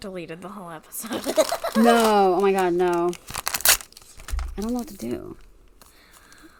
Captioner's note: paper sounds; laughs